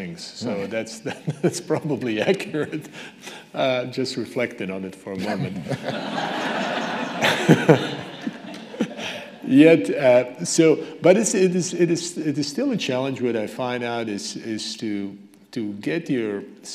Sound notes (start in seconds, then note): 3.1 laughs; 5.2 audience laughing